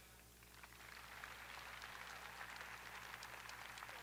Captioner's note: audience applauding